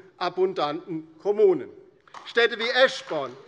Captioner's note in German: Beifall DIE LINKE